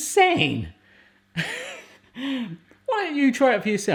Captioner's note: laughs